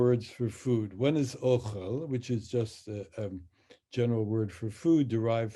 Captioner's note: speaks in Hebrew